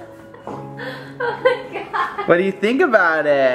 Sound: laughing

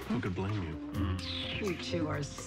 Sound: kisses

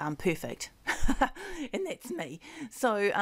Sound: chuckling

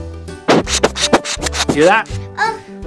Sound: air blows into microphone

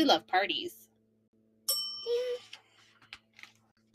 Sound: bell dings

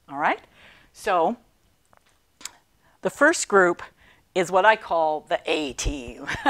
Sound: laughing

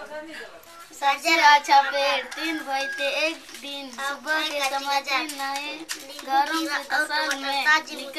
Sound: children reciting poems

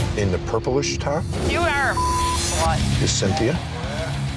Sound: beep

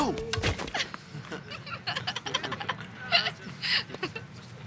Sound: laughing

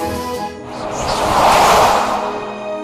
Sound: whooshing

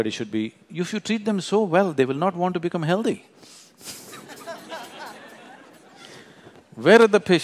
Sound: laughter

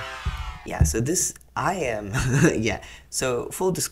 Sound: laughs

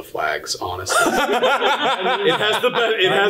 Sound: all laughing loudly

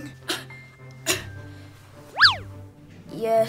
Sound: cough noise

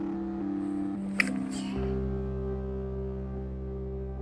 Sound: clicks tongue

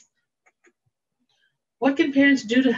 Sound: mouse clicking

